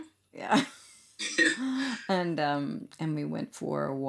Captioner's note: laughs